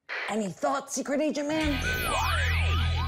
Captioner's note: whispering